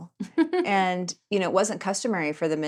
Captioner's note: laughing